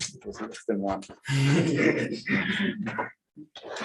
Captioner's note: laughter